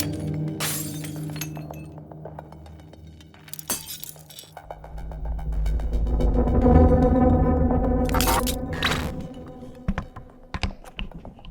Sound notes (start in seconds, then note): 0.2 glass shattering; 8.1 static crackling